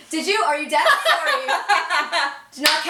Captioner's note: laughter